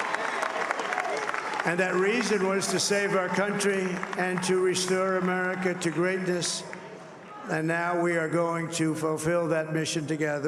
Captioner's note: cheers and applause